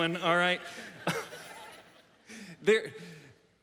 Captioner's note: audience laughs